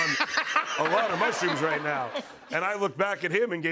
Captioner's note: laughter